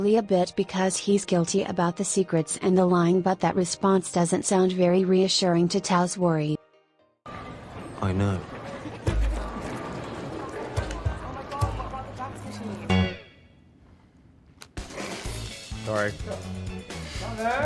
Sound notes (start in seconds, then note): 14.8 suppressed laughter